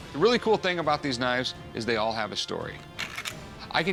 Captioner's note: clacks